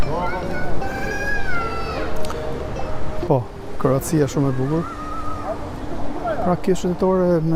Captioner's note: scream